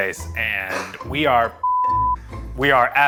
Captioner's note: beep